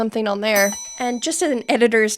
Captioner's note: bell ringing